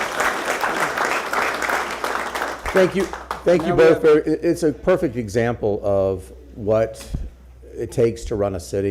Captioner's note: applause